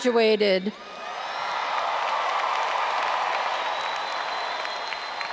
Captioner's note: all applauding and cheering